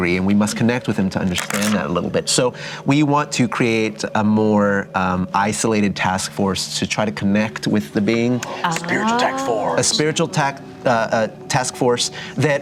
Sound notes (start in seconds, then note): 8.6 whispering